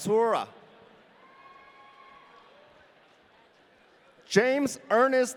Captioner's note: audience cheering